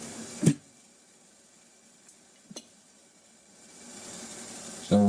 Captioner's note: mixer whirring